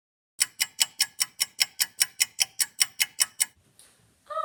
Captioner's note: clock ticking